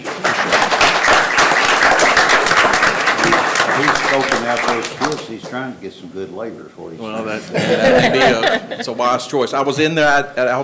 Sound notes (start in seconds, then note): 0.0 everyone applauding